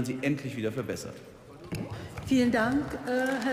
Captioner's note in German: Beifall